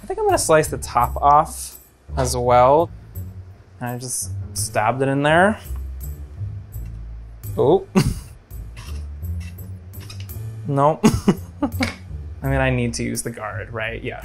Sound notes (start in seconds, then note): 11.0 laughs